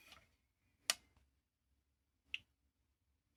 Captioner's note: click